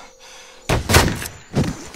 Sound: shots fired

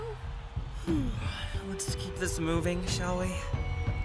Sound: yawns

